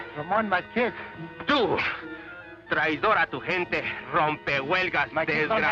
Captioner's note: Ramon speaks Spanish